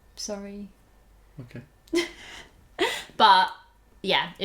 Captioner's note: laughter